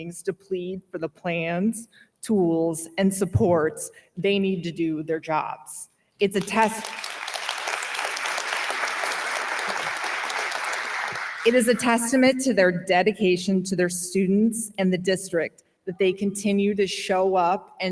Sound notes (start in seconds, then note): 6.4 audience applauding